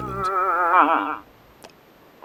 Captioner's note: moose whiny